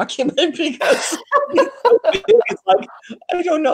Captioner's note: laughing